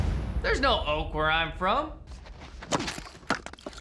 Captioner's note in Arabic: التقطيع